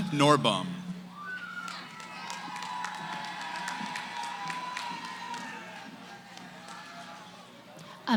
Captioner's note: cheering